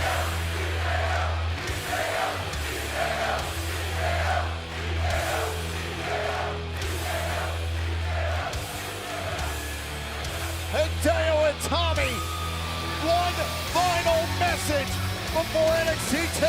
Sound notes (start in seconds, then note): 0.0 cheers and applause; 3.2 fans chanting